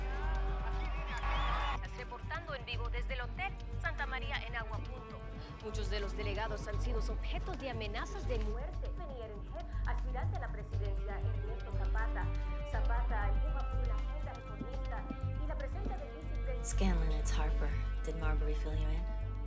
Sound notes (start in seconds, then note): 1.7 speaking Spanish; 4.6 suspenseful orchestral music